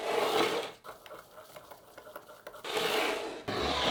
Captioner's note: whisking